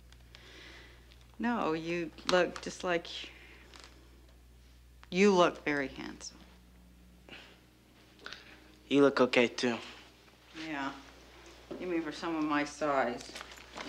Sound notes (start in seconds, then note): none